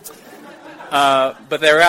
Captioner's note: audience Laughter